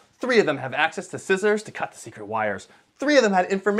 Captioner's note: none